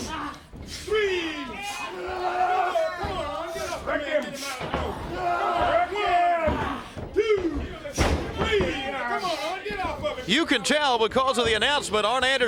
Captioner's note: crowd chatter